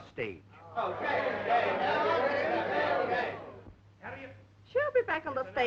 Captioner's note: crowd chattering